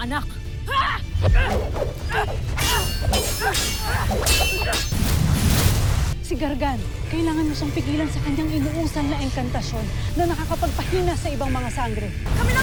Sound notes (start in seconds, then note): 1.2 growling & grunting; 1.2 swords swishing & clanging; 5.4 sparkling whoosh